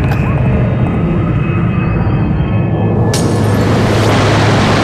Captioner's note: high pitched agoraphobic glass breaking; loud waterfall